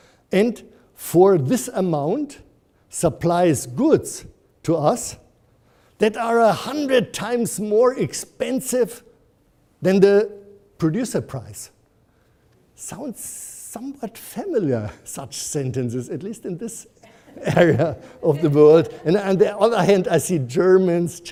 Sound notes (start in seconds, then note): 17.1 audience laughs